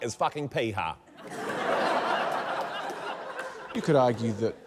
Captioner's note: laughter